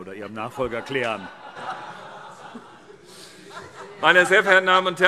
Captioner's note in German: Erneute Heiterkeit